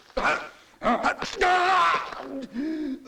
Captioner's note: dick yells